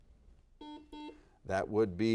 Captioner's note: buzzer dings